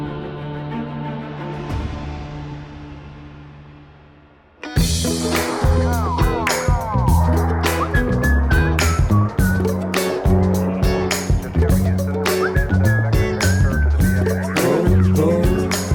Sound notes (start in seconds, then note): 4.5 upbeat music; 7.6 whistling